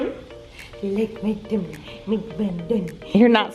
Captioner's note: mumbling baby talk to Flynn